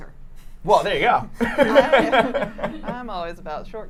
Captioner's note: laughs